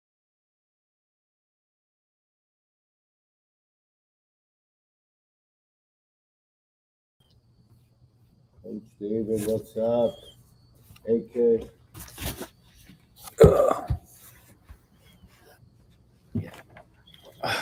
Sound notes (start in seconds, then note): 8.7 speaking quietly